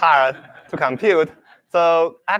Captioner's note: laughter